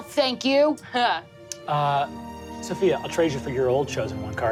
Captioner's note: laughs